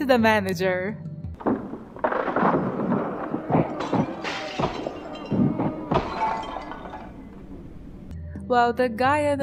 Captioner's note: they're beating him up noises